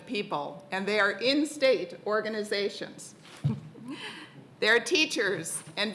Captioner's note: laughs